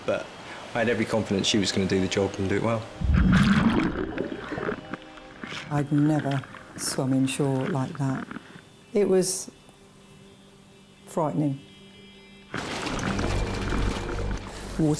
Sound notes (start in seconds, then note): 2.8 water gurgling; 12.6 water splashing